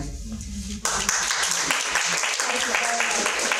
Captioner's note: audience clapping